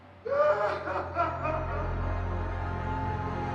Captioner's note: Robert crying